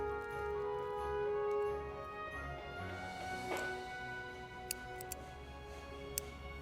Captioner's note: hammering